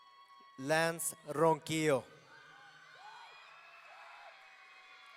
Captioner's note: audience cheering